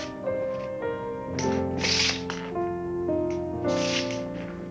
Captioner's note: shoes scrape